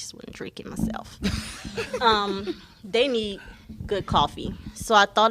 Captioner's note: laughter